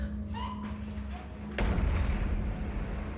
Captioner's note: Ellie breathing heavily; Ellie gasping softly